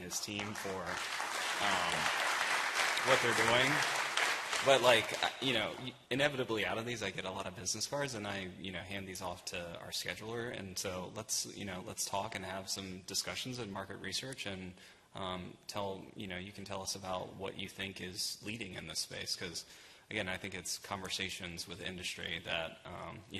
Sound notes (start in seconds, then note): 3.1 applause